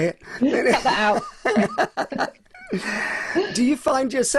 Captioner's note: both continue laughing